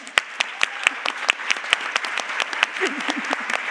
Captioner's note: Aplodit